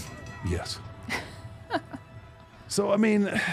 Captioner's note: laughs